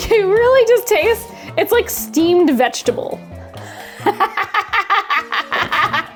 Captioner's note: laughs